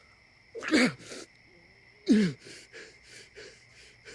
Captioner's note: strained panting